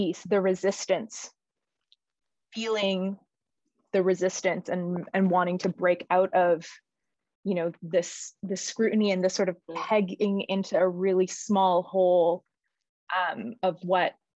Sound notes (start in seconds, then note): none